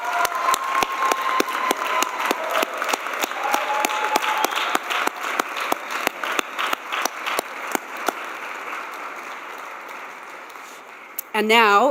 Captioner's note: cheers and applause